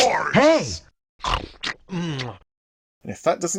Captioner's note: eating noises